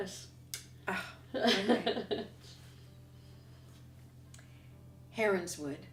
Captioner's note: laughter